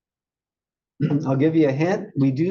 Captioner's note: cough